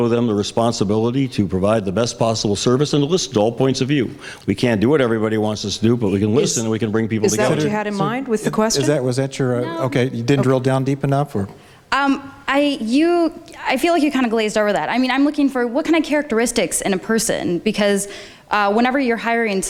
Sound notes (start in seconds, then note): none